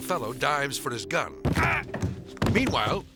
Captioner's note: man grunts and collapses